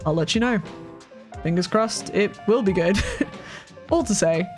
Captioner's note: chuckles